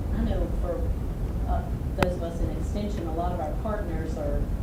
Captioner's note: voiceover